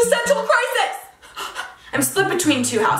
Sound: gasping

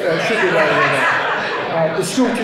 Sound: attendees laughing

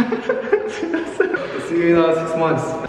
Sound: laughter

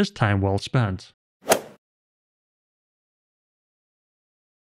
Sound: golf ball hit sound effect

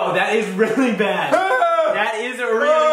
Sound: yelling

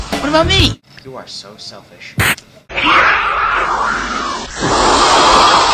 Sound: roaring

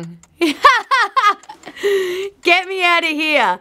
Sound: laughing

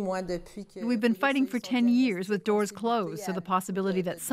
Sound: speaking French

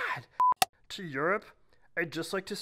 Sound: beep

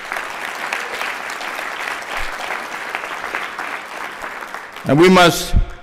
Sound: applause

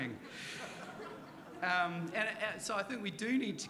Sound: audience laughing; chuckles

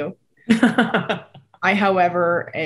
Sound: laughing

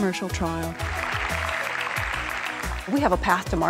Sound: clapping sounds

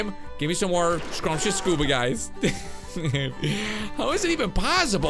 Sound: laughs

